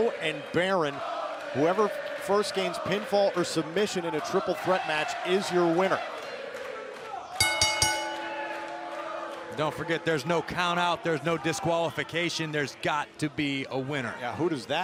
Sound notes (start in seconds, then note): 7.2 crowd chatter; 7.4 bell ringing